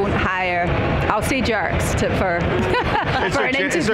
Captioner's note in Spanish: risas